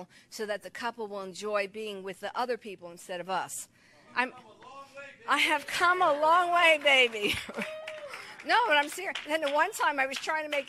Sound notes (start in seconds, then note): 5.8 congregation claps; 7.1 laughs